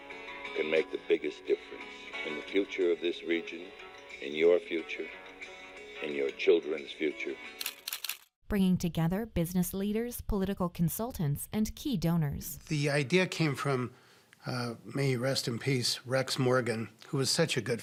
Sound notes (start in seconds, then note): 7.6 camera shutter clicking